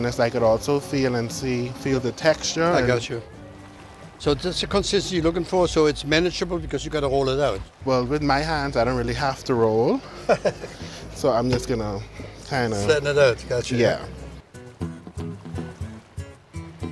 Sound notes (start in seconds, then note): 10.0 chuckles; 14.1 upbeat music